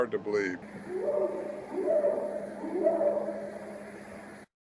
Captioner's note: creature hooting